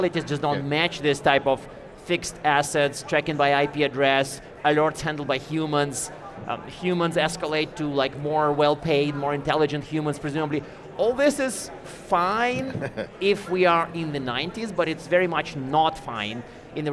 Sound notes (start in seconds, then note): 12.6 chuckling